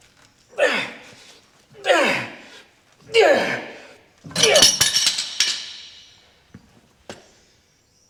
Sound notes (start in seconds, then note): 3.0 grunting